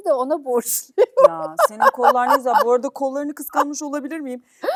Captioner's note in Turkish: kahkaha